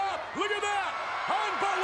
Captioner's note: spectators cheering